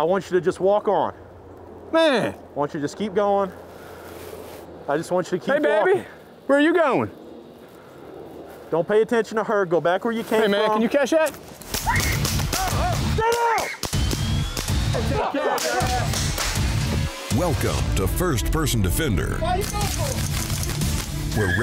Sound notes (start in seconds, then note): 11.7 gunshots; 13.2 shouting